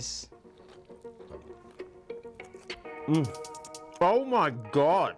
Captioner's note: chewing sounds